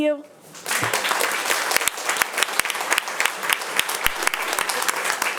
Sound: audience applauding

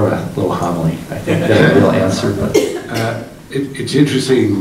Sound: group laughing

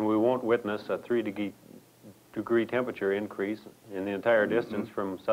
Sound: stammer

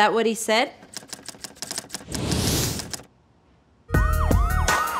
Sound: typing

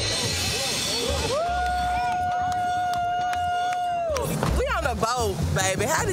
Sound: group cheering

